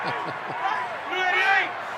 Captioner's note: laughs